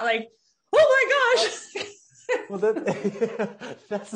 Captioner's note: laughing loudly